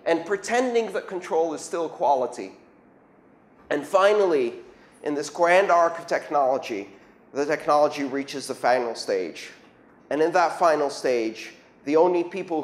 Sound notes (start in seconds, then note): none